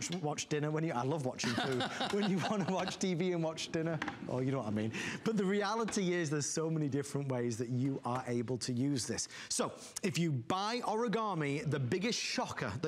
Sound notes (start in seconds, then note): 1.4 laughter